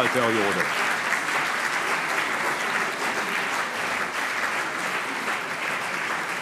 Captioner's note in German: Allgemeiner Beifall